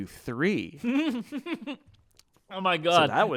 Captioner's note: laughs